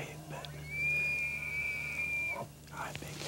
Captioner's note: elk bugling